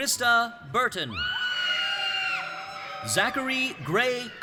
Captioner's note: audience cheering